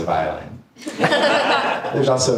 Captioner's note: audience laughing